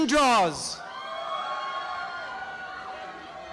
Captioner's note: applause and cheering